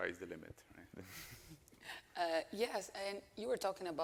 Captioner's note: chuckles